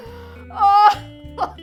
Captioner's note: crying